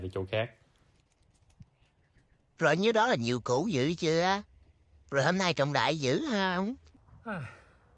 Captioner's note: mocking